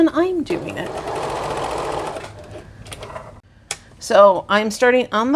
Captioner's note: sewing machine whirring